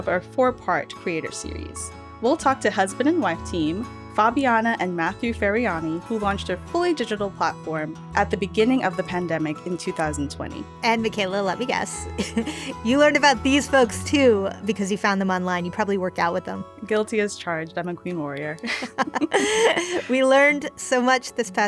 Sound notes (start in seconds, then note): 12.2 laughs; 18.6 laughter